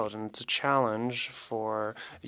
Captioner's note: speaking French